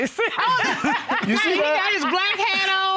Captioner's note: all laughing